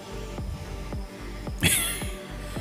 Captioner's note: laughs; हंसी